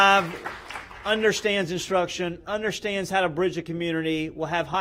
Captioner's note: applause